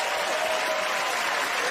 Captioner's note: cheers and applause